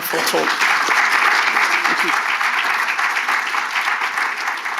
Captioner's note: attendees applauding